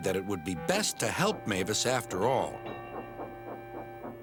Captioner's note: dings bell